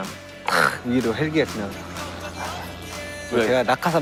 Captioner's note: helicopter flies over the stadium